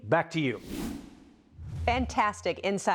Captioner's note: air whooshing